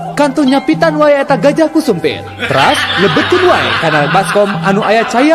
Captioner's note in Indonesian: tertawa